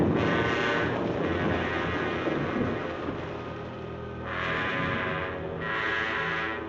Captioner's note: lightning crashing; suspenseful music continues